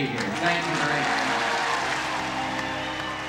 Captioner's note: audience cheers and applauds